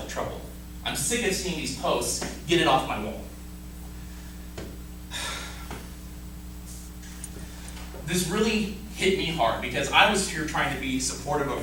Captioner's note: sigh